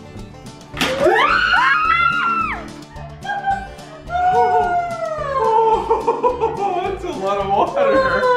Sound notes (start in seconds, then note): 1.0 screams